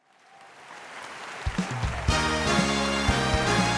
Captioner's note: audience applauding; upbeat music; audience applauding